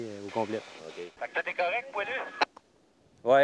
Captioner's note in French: radio